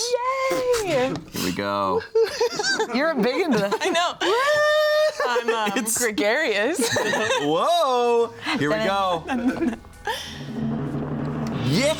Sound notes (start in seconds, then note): 9.0 laughs; 9.9 pensive music